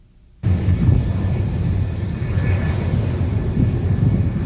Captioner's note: engine whirring